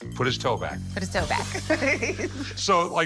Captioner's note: chuckling